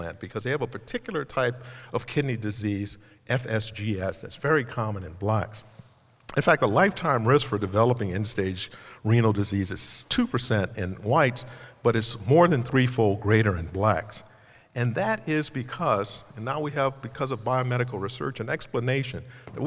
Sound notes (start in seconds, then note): none